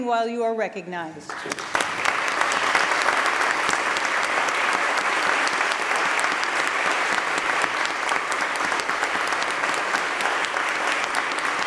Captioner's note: applause